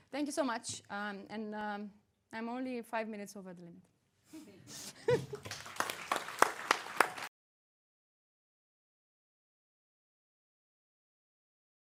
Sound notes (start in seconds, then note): 4.7 chuckling; 5.1 audience applauding